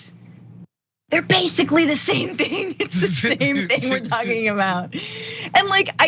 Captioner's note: laugh